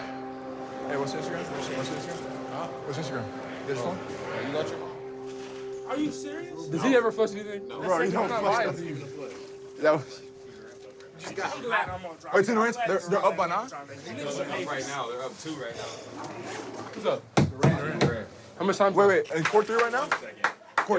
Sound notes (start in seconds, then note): 14.5 chatter